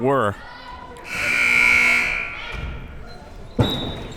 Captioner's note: buzzer ringing; whistle tweeting